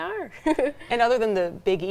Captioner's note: chuckling